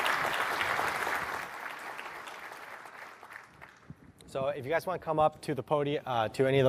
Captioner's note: applause